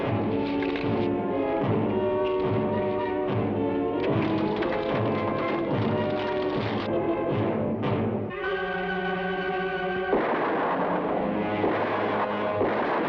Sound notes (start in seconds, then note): 0.1 suspenseful music; 3.9 horse hooves patter; 10.0 gunshots blast